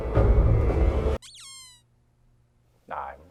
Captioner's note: squeaky toy noise